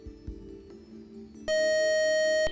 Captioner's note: time out buzzer